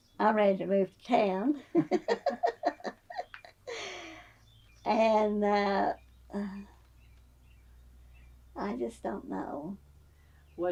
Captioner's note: laughs